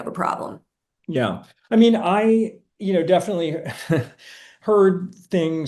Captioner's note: chuckling